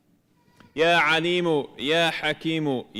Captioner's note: speaking arabic